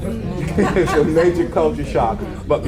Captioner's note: audience laughs